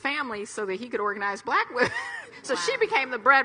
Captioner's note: chuckles